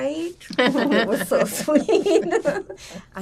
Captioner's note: laughing